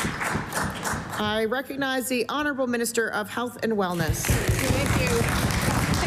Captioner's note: applause